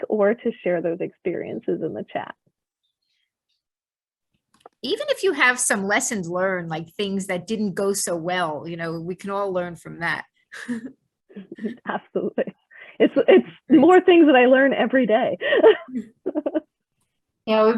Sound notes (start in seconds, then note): 10.8 laughs; 11.4 chuckles; 15.4 laughs